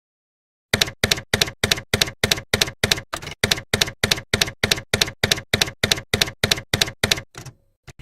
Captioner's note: typewriter keys clacking